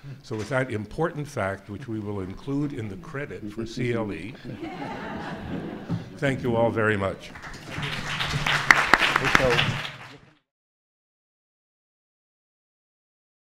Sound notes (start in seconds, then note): 4.4 laughing; 7.2 applauding